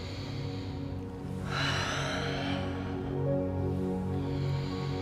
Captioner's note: breathing deeply